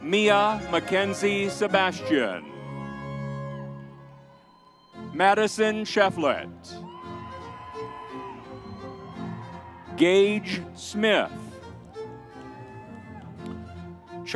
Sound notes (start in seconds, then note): 4.0 audience cheers; 7.2 vibrant music continues; 11.8 vibrant music continues